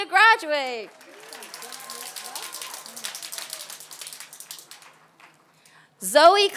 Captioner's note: applause